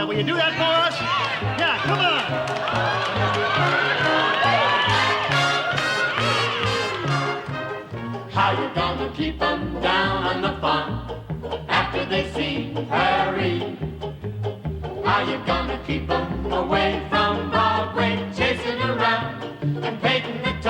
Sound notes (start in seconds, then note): 7.4 cheers and applause; 9.7 instrumental music